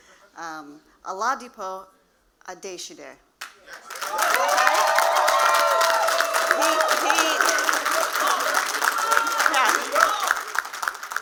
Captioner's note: cheers and Applause